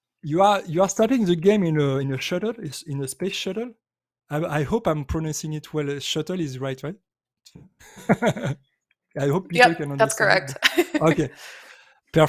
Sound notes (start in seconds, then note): 7.8 chuckles; 10.4 laughs